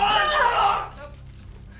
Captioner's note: screams